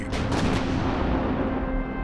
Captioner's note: cannon fires